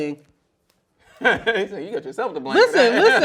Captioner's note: laughs loudly